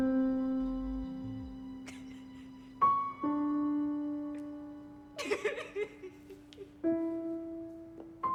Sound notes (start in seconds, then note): 2.3 Madeleine crying